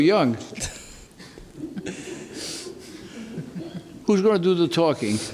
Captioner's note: quiet laughter